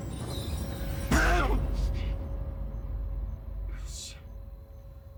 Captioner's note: yells in fear